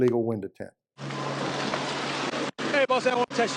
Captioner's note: car whooshing past